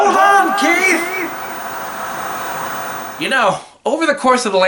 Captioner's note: TV Static